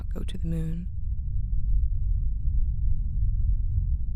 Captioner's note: low rumble